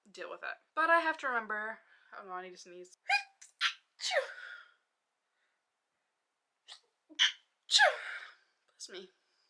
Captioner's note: queue dainty sneezing